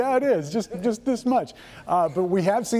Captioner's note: laughs